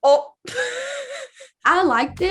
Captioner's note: laughs